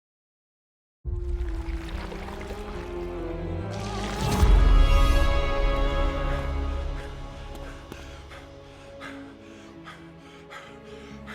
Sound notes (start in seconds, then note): 7.0 footsteps